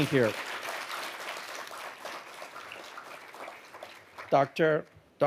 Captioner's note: audience applauding